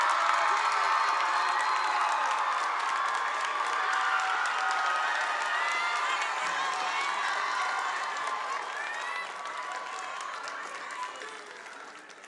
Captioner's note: applause